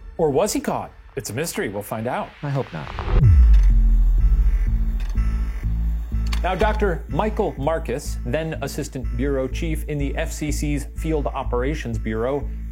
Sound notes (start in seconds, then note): 2.4 static buzzes; 4.4 suspenseful music; 4.9 slide projector clicks